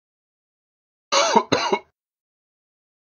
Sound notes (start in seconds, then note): 1.1 sound of man coughing